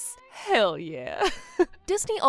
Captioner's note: chuckles